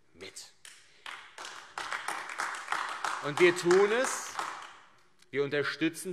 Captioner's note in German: Beifall AfD